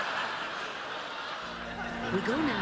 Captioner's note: laughter